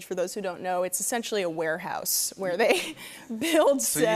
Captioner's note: laughter